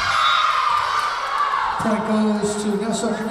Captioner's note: Lions cheering; whistle blowing